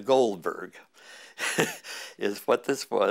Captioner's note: chuckle